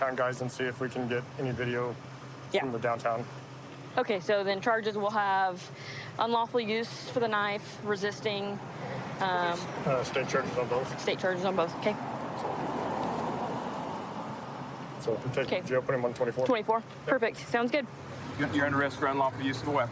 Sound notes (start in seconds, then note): 12.4 vehicles driving